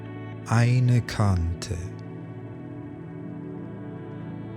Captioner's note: german